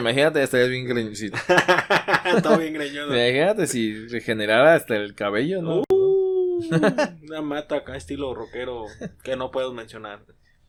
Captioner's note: laughs